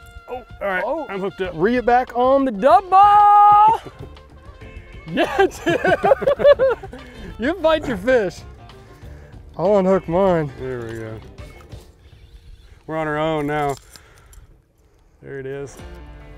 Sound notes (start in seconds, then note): 5.0 laughs